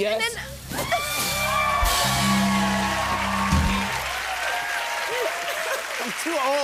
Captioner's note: cheers and applause